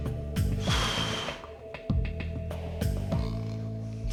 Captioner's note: sigh